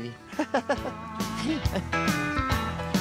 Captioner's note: laughs